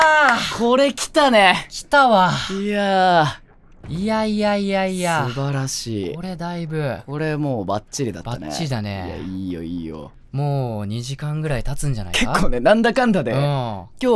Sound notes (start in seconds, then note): 2.6 relieved sigh